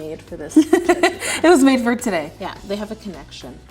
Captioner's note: laughing